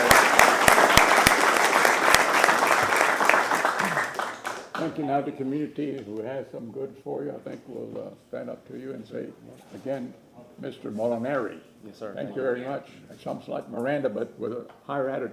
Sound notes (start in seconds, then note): 3.3 applause